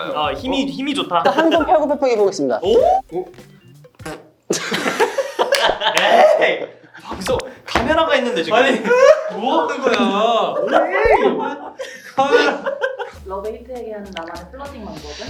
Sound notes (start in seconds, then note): 2.6 pfft